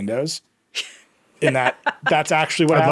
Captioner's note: laughing